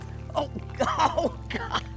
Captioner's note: chuckles